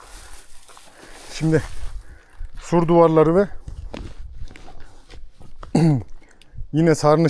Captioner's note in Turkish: boğazını temizler